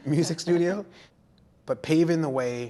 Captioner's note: speaks in foreign language